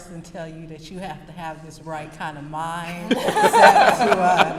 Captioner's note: brief laughter